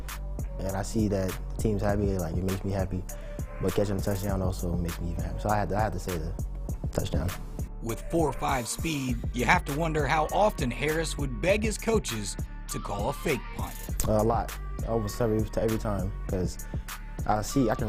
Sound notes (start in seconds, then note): 4.9 faintly speaking